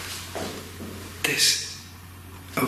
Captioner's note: faint banging